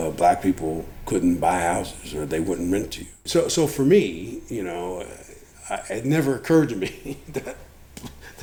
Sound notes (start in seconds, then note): 6.7 laughs